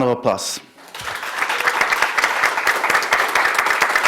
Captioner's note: applause